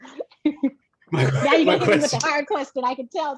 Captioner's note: laughing